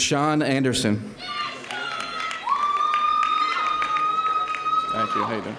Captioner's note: audience cheering